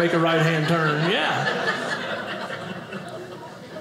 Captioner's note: audience laughing